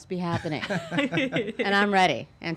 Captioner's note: laughing